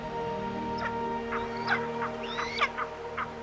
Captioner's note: bird of prey calls